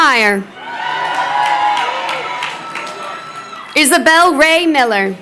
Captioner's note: crowd cheering